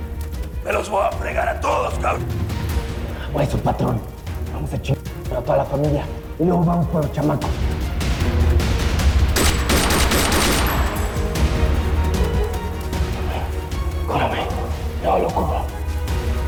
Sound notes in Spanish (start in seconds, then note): 9.3 Disparos